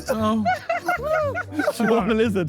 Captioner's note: Sidemen laugh